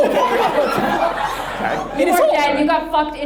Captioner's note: audience laughs